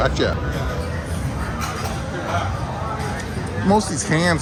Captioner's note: people chattering